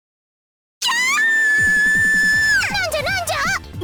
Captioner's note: panicked cry